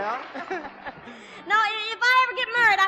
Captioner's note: both laughing